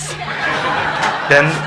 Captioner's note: congregation laughing